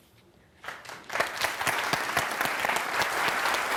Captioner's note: applause